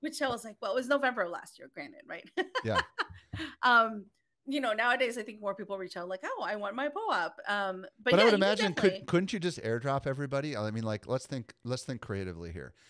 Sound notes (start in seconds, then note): 2.4 laughing